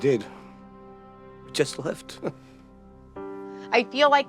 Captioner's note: chuckles